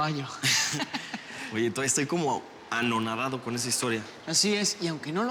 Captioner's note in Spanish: Risas